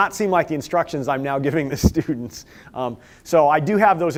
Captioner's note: laughter